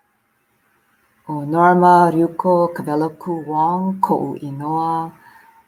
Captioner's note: foreign language